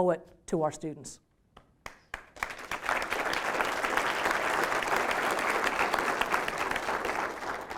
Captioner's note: applause